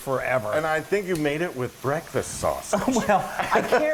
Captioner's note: laugh